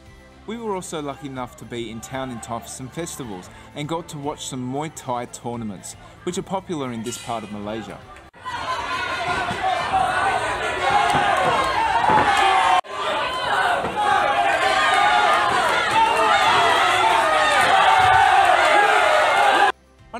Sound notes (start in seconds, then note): 7.4 crown cheering